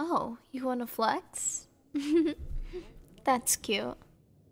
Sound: soft laugh

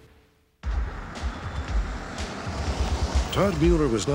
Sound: car whirring

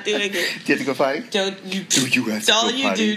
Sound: laughs

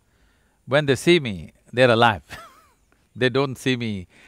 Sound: laughs

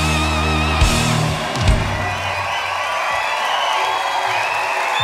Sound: crowd cheering

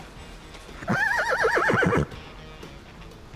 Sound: neighing

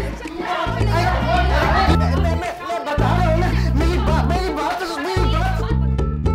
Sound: chattering

